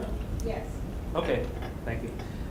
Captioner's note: voiceover